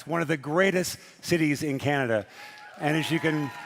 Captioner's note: speaking French